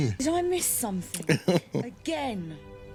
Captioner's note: laughing